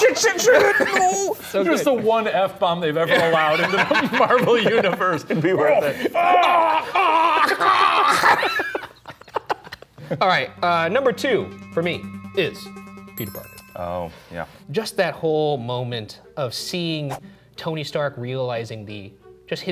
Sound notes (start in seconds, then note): 6.4 laughing; 6.4 shouting